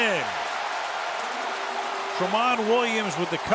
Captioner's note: cheering